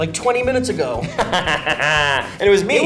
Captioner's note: Ben laughs